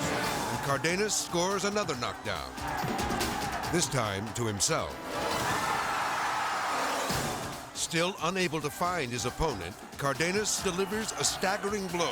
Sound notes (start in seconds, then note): 2.5 crowd yelling; 2.5 dramatic music; 4.9 crowd cheering; 4.9 edgy dramatic music